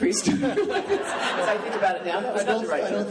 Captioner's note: laughing